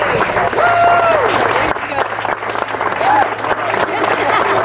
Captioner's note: audience claps